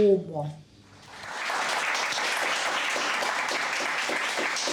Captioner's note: audience applauds